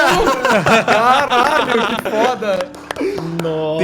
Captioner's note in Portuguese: Palmas